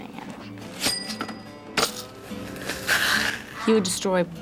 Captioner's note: cash register rings